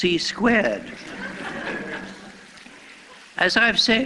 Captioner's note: laughter